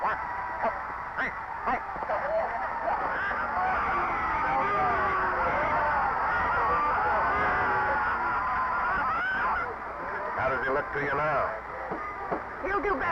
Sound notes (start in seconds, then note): 4.1 referee whistling; 7.6 crowd shouting